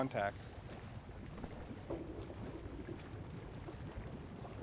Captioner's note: water bubbling